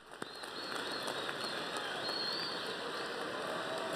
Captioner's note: cheers and applause